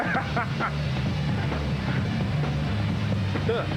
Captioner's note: Rires